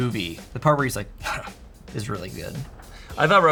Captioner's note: scoffs